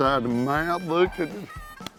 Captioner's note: guy laughs; hand slaps